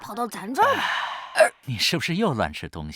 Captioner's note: burp